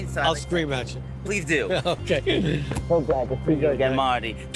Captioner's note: laughs